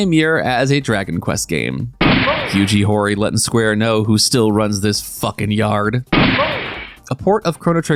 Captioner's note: gunshot